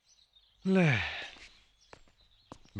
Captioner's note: sighs